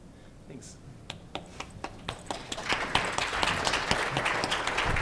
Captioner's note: applause